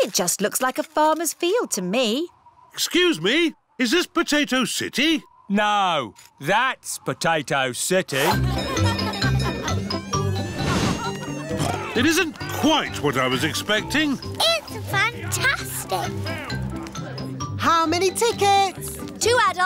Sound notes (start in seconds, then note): 8.2 cheerful jingling; 12.0 oinks